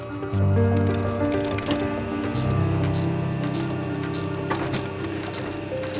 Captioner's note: mechanical hum and paper movement